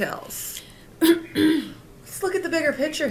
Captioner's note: Regina clears throat